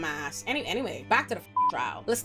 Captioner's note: beep